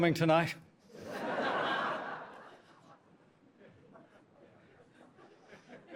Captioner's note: laughter